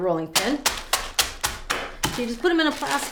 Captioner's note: rolling pin banging